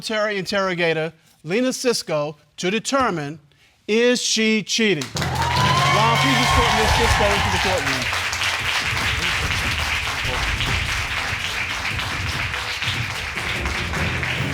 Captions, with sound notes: former military interrogator, Lena Sisco, to determine is she cheating? Ron, please escort Ms. Sisco into the court room. (AUDIENCE APPLAUDING)